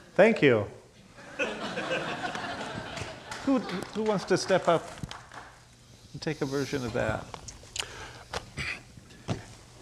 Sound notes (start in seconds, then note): 1.3 laughing